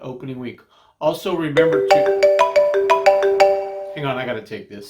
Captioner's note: phone rings